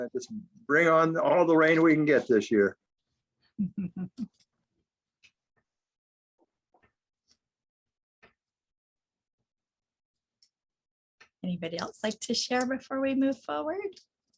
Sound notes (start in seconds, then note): 3.7 laughs